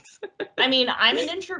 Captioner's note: laughs